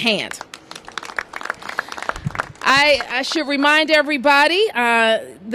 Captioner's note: applause